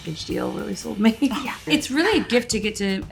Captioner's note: Tessa chuckles